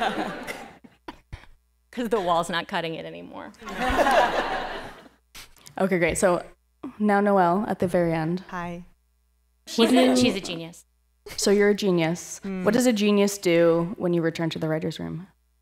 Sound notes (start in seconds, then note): 3.6 laughter